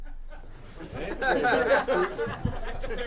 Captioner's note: press pool laughs